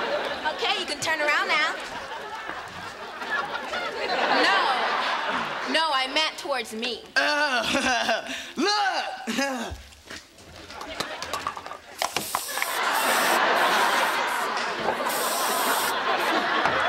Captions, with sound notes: Okay, you can turn around now. No. No, I meant towards me. Oh. [chuckles] Look. [spraying]